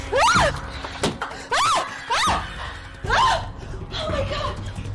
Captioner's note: yells